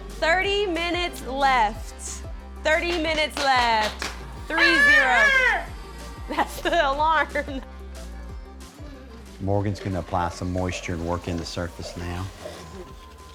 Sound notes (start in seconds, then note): 4.5 yells; 6.2 laughs